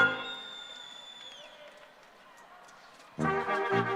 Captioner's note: scattered cheering, applause; orchestral music